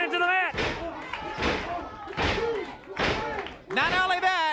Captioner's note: foot stomping